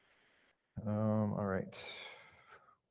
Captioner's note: sighs